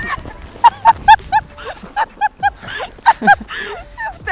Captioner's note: laughter